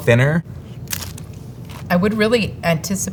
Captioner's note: mouth crunching